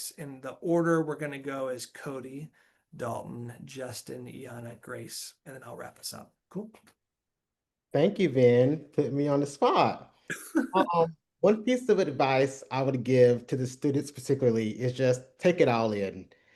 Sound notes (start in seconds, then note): 10.3 laughs